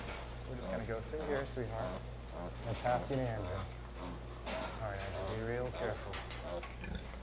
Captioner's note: piglet squeals and mother pig grunts